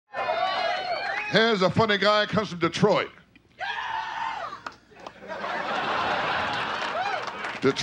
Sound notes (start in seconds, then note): 0.1 audience cheering; 3.6 man yelling; 5.0 audience laughing